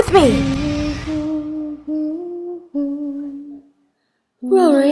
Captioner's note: Rory Hums